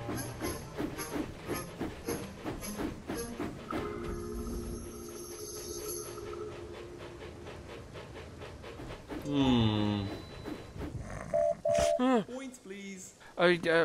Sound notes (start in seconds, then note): 11.2 oliver whistles